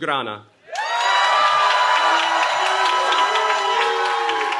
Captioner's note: cheering